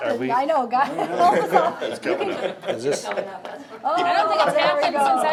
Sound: members laughing

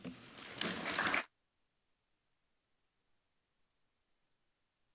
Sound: audience applauding

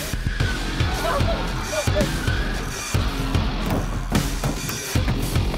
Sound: ghostly screeching

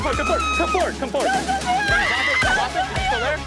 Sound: women screaming

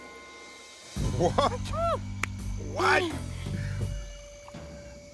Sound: laughs

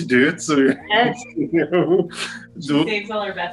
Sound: laughs

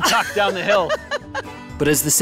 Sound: laughing

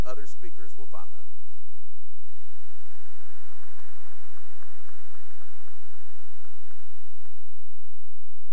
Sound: applause

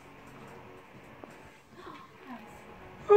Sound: gasps

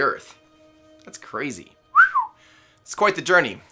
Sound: whistles

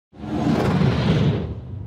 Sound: whoosh

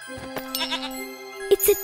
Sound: bleating

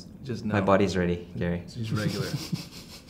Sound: laughing

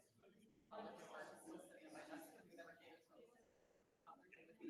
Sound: random crowd conversations

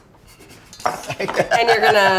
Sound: laughs

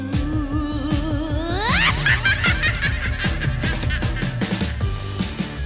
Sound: witch cackle

